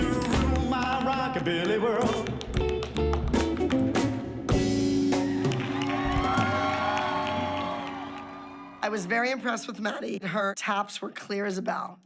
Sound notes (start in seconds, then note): 5.3 applause